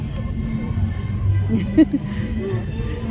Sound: laughs

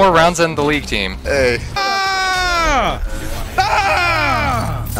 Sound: screaming

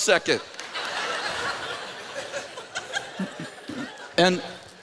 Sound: laughter

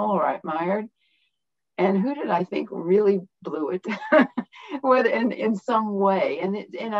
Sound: laughter

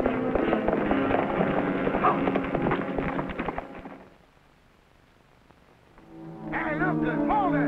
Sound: dramatic music; horses galloping

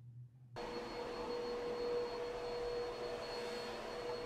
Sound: vacuum rumbling

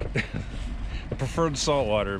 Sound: chuckling

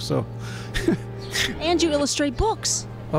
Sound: sniggers

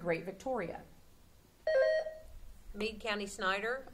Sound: buzzer sounding

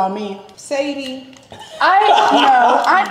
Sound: laughing

